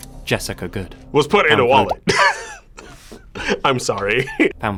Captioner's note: laughs